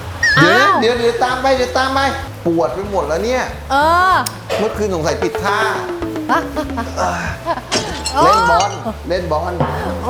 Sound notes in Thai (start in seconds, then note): 5.3 หัวเราะ